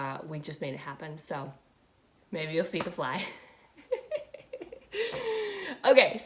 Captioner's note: laughing